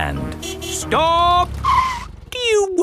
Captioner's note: tires screeching